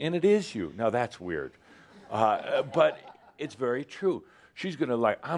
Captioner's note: a few chuckles